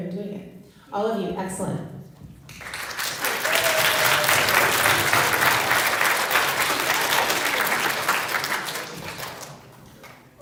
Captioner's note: applause